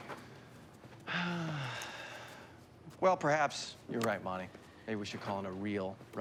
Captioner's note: sighs